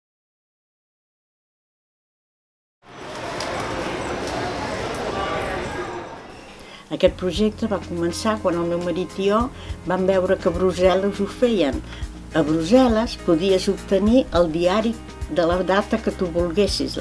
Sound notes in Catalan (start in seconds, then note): 2.8 Soroll del carrer